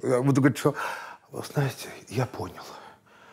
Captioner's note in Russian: с предыханием